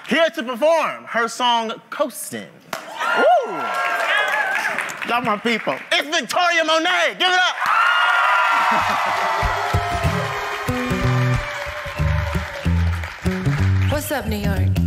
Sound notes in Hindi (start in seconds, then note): 7.3 जय-जयकार करते हुए; 8.6 ताली